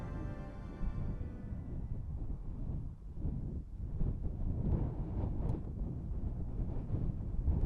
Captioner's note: icy wind sound